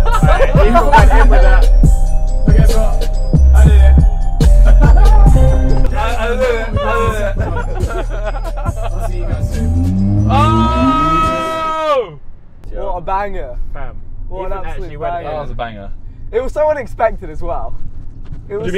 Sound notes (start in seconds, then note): 0.0 laughing; 6.5 laughing